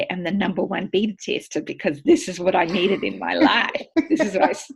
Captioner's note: laughing